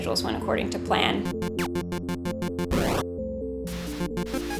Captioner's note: video game sounds